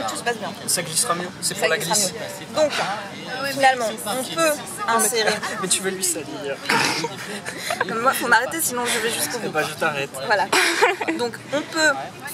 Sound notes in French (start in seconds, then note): 6.9 rires